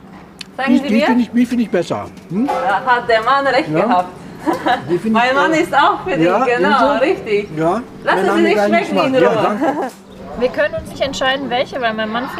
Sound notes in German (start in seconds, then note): 4.2 lacht